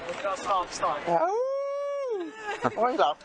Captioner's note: howling